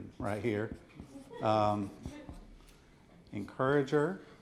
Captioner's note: audience softly chuckles